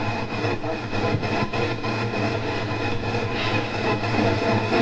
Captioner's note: radio static hissing